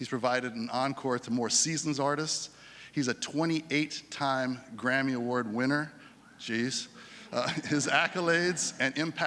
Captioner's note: laughter